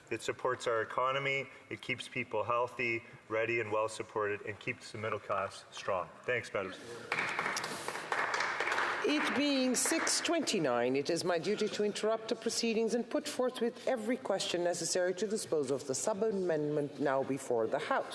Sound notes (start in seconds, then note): 10.5 some Applause